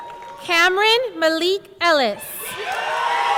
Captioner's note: person shouting